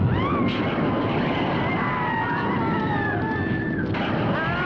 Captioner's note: witches screaming